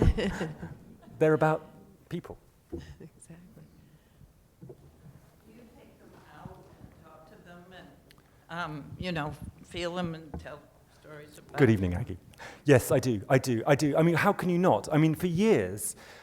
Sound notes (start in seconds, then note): 0.0 laughter; 3.8 voiceover; 12.3 voiceover